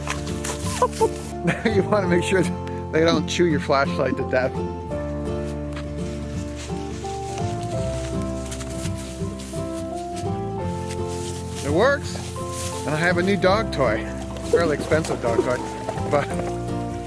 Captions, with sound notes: - Now you wanna make sure that they don't chew your flashlight to death. (leaves crunching) It works, and I have a new dog toy. It's a real expensive dog toy, but,